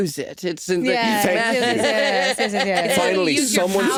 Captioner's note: all laughing